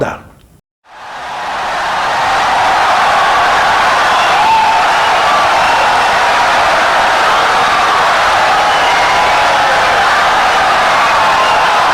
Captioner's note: wild applause and cheering for 17 seconds